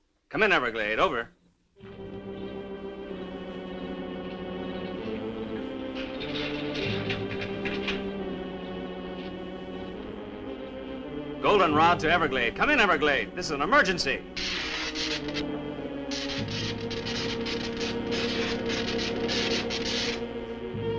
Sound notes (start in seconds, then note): 2.4 suspenseful orchestral music; 6.0 gate rattling; 13.8 electricity crackling; 16.9 suspenseful orchestral music